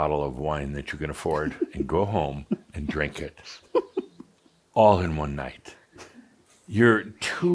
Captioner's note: giggling